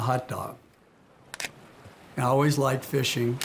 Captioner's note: camera clicking